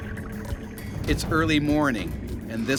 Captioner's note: voiceover